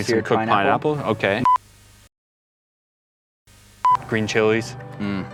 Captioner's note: beep